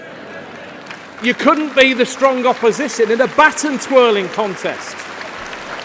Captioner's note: laughter